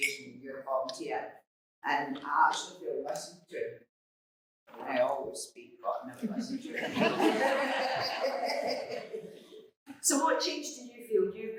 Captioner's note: laughter